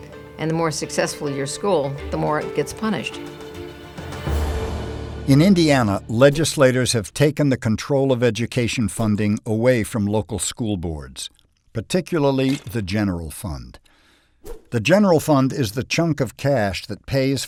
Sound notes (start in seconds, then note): 5.3 voiceover